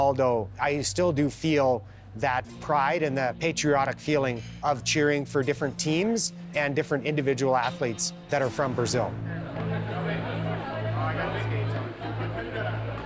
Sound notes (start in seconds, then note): 8.4 chatter